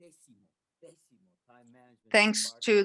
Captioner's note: speaks in Spanish